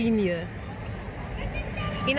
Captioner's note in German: Kinderstimmen